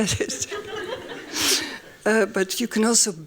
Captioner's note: laughs; laughing